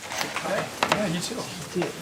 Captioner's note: background chatter